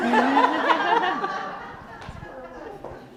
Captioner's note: laughing